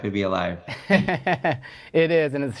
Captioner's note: laughs